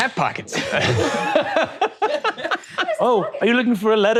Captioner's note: all laughing